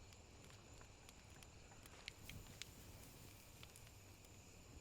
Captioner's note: fire crackling